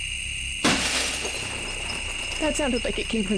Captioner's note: loud violent smash